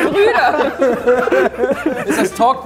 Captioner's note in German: Lachen